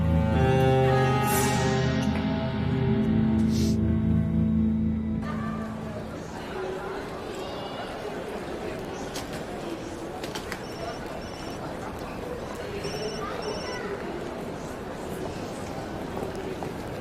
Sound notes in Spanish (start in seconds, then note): 5.9 Bullicio; 11.2 Suena el celular